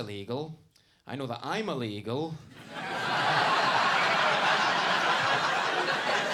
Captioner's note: audience laughing